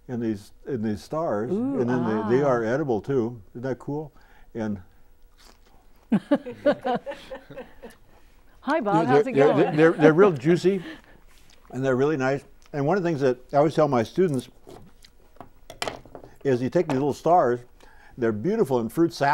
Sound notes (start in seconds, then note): 6.1 laughing